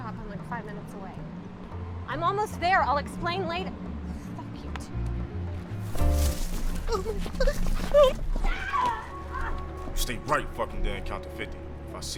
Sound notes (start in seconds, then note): 7.1 Cassidy gasping; 7.4 Cassidy screaming